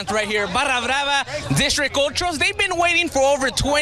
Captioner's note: speaks in Spanish